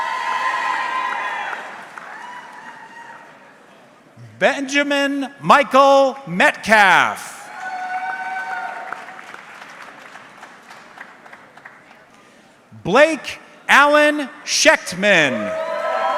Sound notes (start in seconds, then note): 0.0 audience cheering; 7.5 audience clapping; 14.9 audience cheering